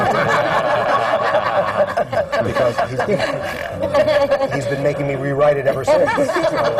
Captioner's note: laughter